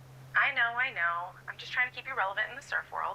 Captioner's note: none